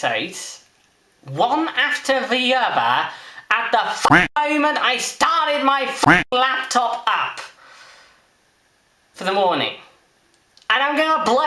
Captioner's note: quack